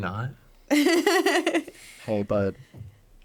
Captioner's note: laughing